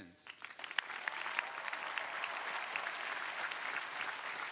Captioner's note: crowd applauding